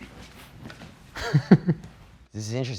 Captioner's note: laughing